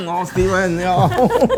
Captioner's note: laughs